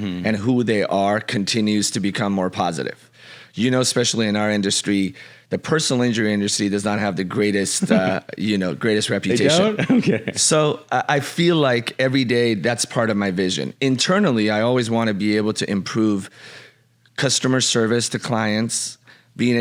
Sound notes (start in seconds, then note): 7.8 laughs